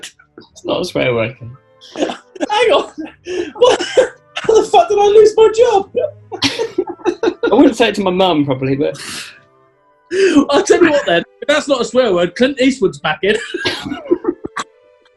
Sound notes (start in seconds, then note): 1.8 laughing; 5.7 laughing; 14.4 laughing; 15.0 cackling, giggling, and laughing